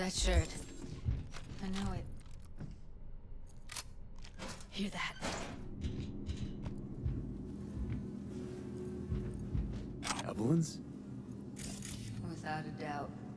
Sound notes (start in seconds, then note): 5.8 footsteps